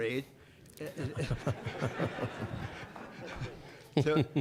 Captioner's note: audience laughing